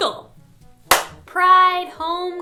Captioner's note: high five sound